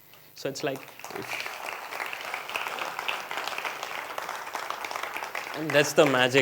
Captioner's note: appluase